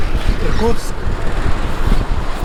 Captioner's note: speaks in Russian